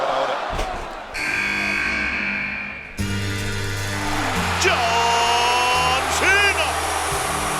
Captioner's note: applause